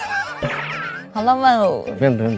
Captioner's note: laughing